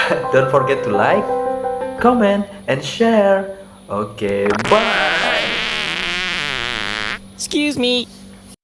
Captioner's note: running